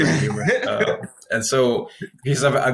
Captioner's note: laughing